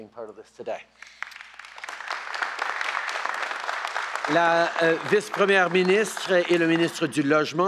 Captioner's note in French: Applaudissements